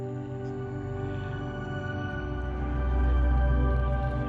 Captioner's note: airplane engine roaring